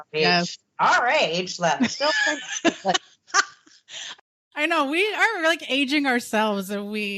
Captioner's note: both laughing